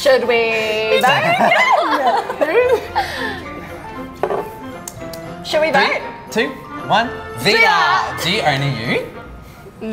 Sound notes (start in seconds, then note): 1.0 laughing